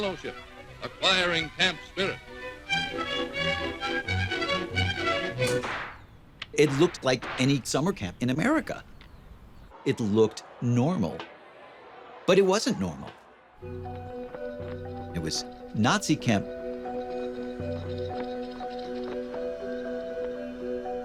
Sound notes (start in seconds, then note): 5.4 rifle shot